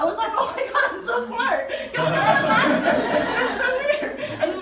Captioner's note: audience laughing